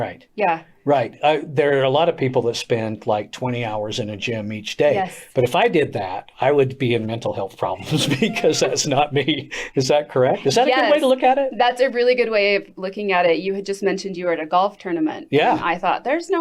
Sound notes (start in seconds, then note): 7.7 chuckles